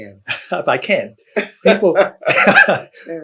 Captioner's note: laughter